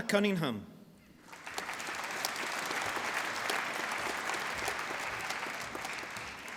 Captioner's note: applause